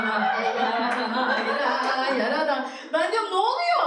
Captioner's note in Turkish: Gülüşmeler